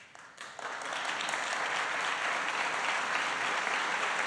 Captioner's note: applause